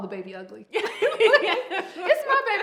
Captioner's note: both laugh